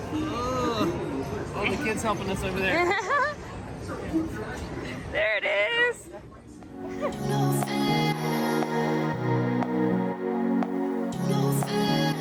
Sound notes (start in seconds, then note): 2.8 laughs; 8.4 upbeat music